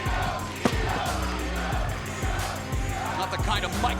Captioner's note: crowd chants; microphone slams on ground